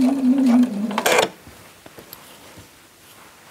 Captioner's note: rattling, short creaking